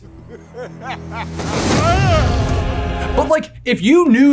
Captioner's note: man laughing